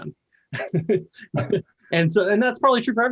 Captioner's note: laughs